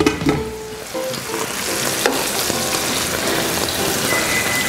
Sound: sizzling

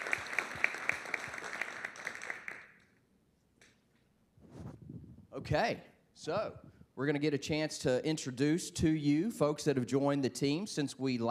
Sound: applause

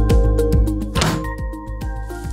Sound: ponk

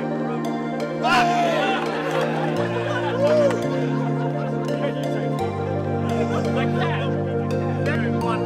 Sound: loud cheering from crowd

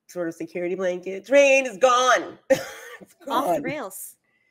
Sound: chuckles

